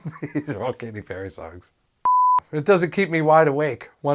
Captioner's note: beep